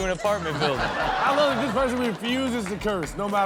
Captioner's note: audience laughs